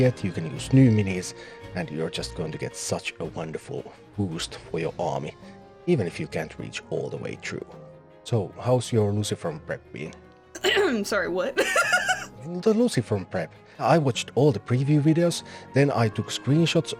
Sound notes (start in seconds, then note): 10.6 clears throat; 11.5 laughs